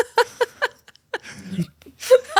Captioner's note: laughs